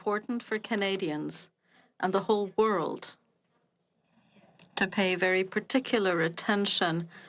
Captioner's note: speaking French